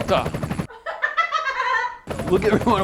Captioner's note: laughing